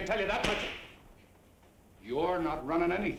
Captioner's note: whip cracks